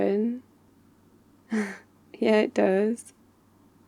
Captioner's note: laughs